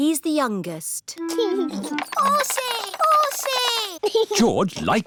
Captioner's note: giggles